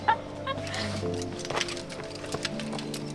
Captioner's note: climbers laugh; ropes and buckles clatter